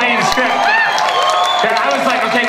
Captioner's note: audience cheering and applause